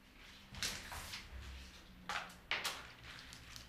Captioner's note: rustling, clattering